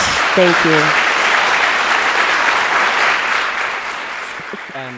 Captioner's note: audience applauding